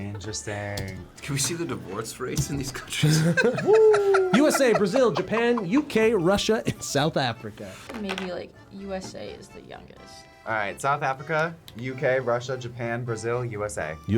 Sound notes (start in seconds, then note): 2.9 laughs